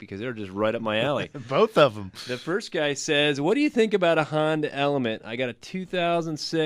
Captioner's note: laughs